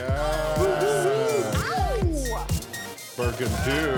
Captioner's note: group cheering